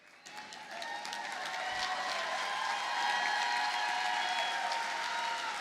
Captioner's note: audience cheers and applauds